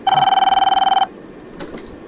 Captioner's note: phone Ringing